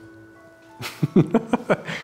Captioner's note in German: Verträumte Klänge; Lachen